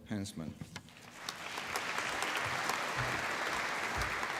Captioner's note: applause